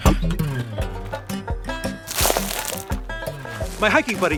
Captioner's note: crunching; lively music